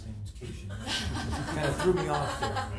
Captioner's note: laughing